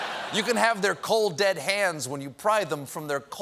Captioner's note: laughter